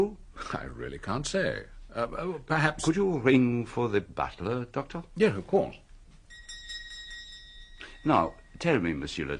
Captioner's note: bell